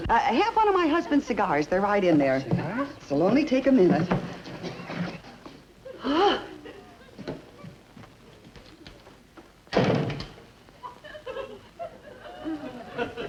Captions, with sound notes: I have one of my husband's cigars. They're right in there. It'll only take a minute. (door closes) (audience laughs)